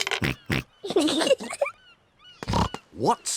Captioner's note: oinks; both giggle